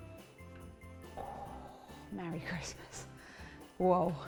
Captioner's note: gasps